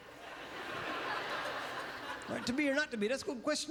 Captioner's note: audience laughter